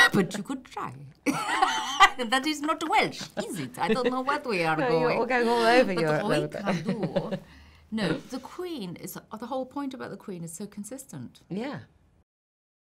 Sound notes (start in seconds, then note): 1.3 laughs; 6.7 speaks in a foreign language